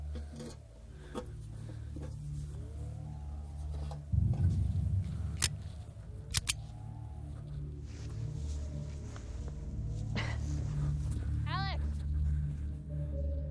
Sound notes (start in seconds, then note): 6.3 gun cocks